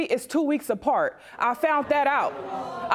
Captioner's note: audience gasp